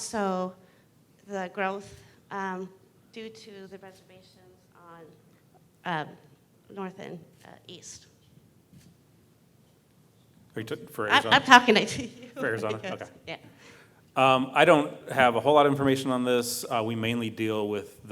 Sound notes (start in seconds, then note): 12.1 laugh